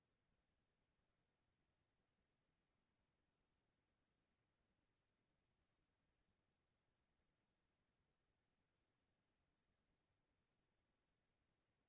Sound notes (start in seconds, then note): none